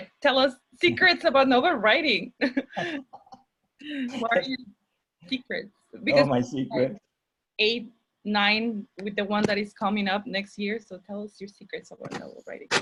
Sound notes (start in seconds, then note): 4.1 chuckles